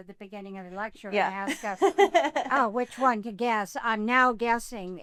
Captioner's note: laughs